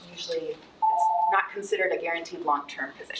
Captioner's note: timer ringing